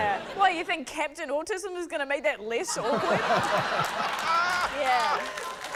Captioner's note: laughter